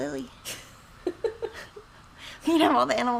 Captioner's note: laughs